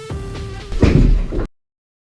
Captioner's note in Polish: Uderzenia drzwiami